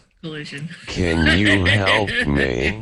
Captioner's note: laughs; computerized Voice